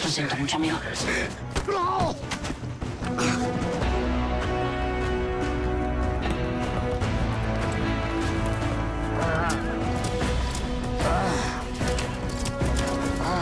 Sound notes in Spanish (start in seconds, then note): 0.2 En voz baja; 8.8 Quejidos